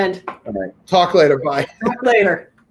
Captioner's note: laughing